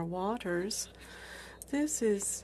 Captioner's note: speaking French